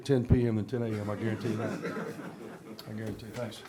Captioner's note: laughs